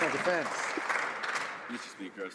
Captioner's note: some Applause